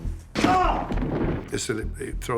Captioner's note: hollers